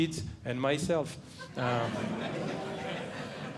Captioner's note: audience Laughing